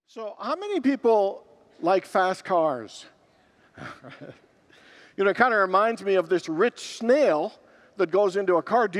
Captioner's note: laughs